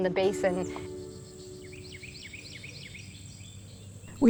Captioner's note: birds chirping